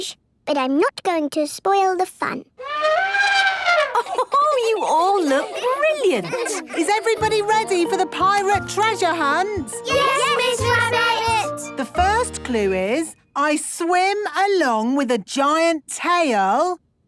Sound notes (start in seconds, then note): 2.6 trumpeting; 3.8 Mummy Pig laughing